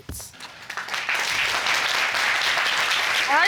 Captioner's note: audience applauds